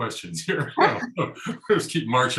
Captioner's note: chuckling